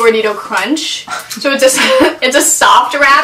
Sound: laughs

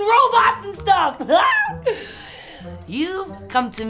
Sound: yells

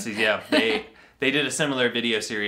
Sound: laughs

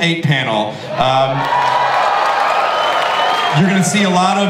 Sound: audience cheering

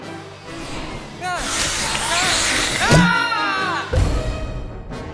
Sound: screaming

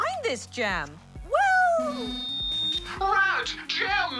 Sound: microphone feedback

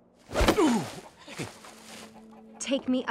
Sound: hurt groan

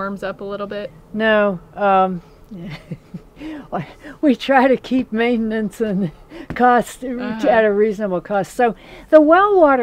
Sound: laughing

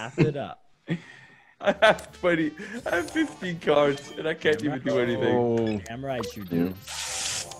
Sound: laugh

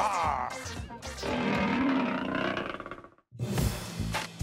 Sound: roars

